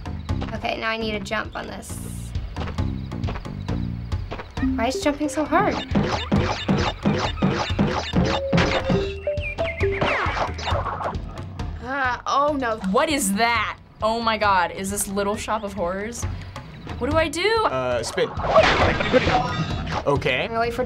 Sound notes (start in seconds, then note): 4.6 bouncing sound effects; 8.7 birds chirping